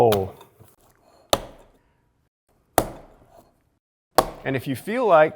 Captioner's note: slapping loudly